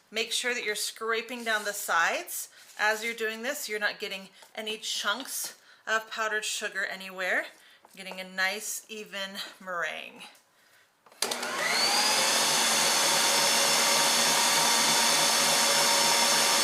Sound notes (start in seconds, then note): 11.1 electric beater whirs